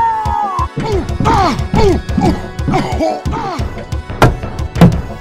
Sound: Peppino grunts

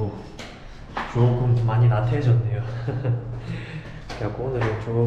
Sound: laughing

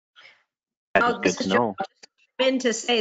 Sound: murmurs

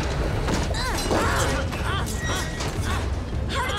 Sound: grunting

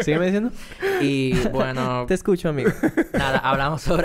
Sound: laughs

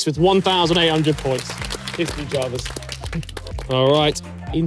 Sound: crowd clapping

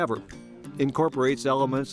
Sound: none

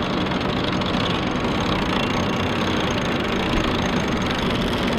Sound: winch ratcheting

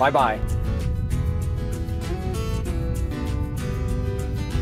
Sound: water rumbling

